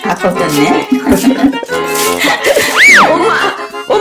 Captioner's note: laughter